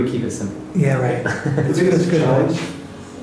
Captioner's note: laughs